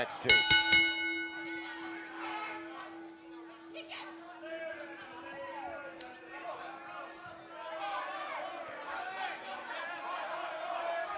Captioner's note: bell ringing